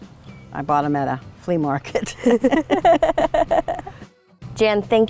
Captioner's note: laughs